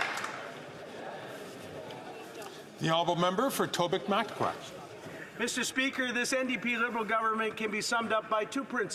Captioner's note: some Applause